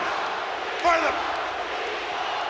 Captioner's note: crowd cheers